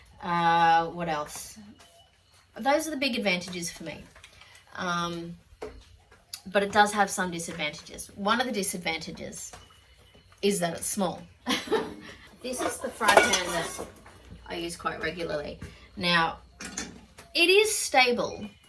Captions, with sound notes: Uh, what else? Those are the big advantages for me. Um, but it does have some disadvantages. One of the disadvantages is that it's small. [laughs wryly] This is the fry pan that I use quite regularly. Now, it is stable.